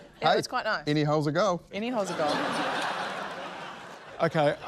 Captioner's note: laughter